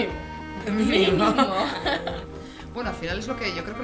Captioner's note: laughs